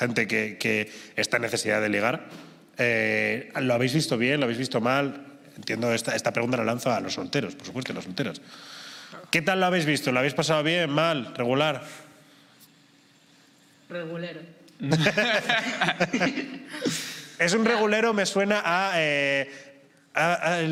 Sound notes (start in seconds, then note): 14.8 laughter